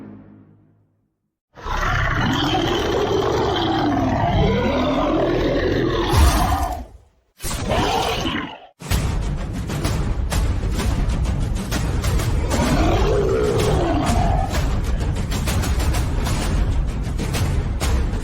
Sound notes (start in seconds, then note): 1.6 monster Roar; 6.0 gun Shot / Monster Roar; 8.8 war Drums; 12.4 monster Roar; 13.2 war Drums